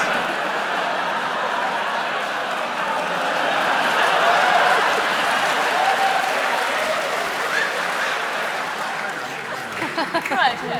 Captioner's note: laughter